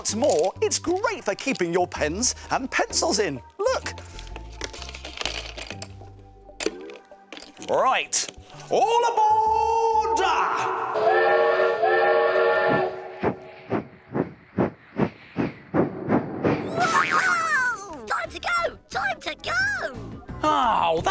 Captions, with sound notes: And what's more, it's great for keeping your pens and pencils in. Look! Right, all aboard! (steam train whistle) (exclaims) Time to go! Time to go!